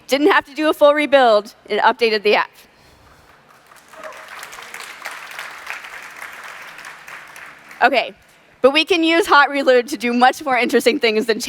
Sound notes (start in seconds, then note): 3.0 applause